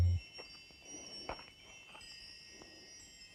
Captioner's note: chiming